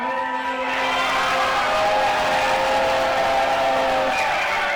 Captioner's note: crowd cheering